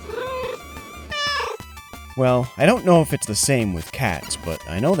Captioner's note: meow